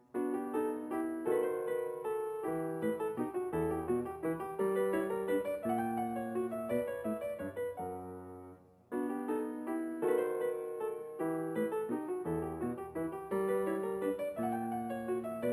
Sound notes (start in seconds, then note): none